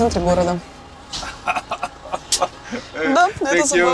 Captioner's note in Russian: смех водителя